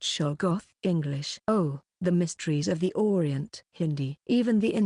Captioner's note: Hindi